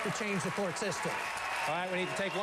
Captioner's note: applause